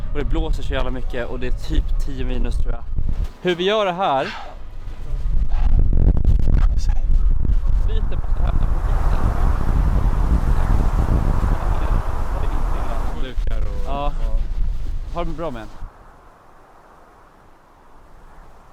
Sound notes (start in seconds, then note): 7.6 wind